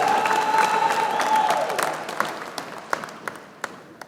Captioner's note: applause